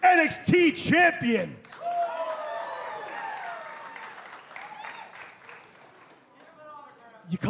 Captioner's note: crowd cheering